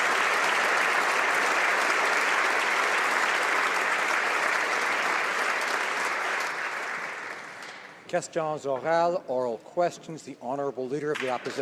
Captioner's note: applause